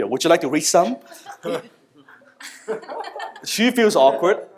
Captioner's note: audience laughter